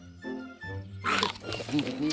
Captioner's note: apples crunching